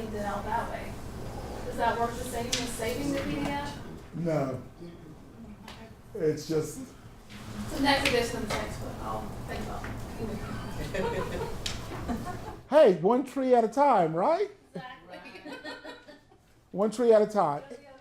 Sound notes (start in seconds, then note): 10.5 laugher in the background; 12.0 everyone laughs